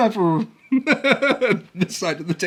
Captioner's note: laughs